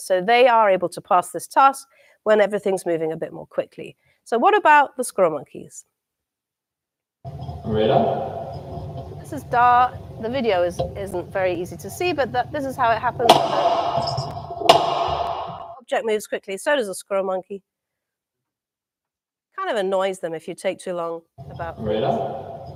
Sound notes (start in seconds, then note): 13.0 banging